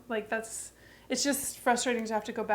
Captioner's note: none